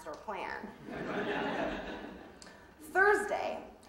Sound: audience laughing

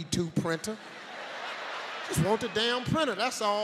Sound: audience laughing

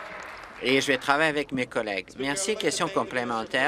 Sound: applause

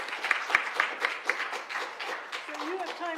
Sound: applause

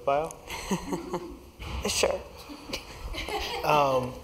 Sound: laugh

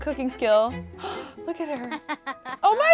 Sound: gasps; Chelsea Jr. laughs

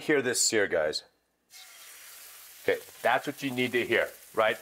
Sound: sizzling

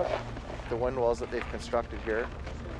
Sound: voiceover

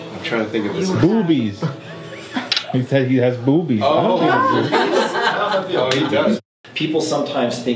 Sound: all laugh

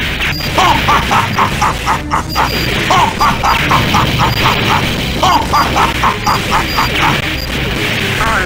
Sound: laughs

